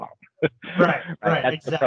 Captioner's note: both laughing